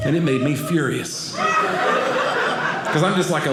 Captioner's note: audience laughing